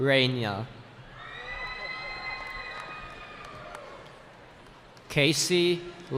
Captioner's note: cheering